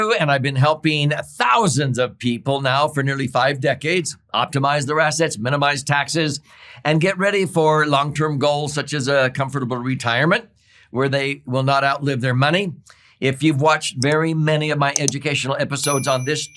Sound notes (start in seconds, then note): 14.9 mouse clicking; 15.8 bell dings